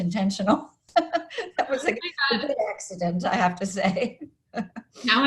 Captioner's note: laughs